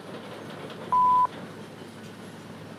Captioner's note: answering machine beep